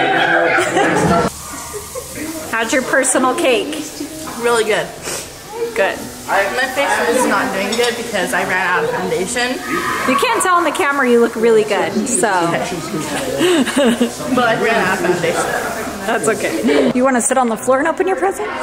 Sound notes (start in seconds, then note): 0.0 laughs; 12.5 laughs